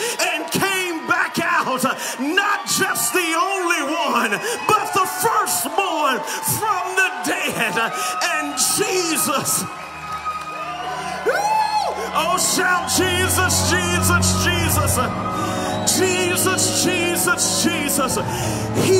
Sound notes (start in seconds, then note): 9.5 audience cheers